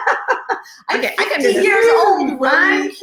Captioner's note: laughing